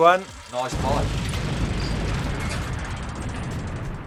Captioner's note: explosion